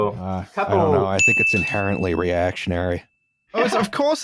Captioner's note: ding!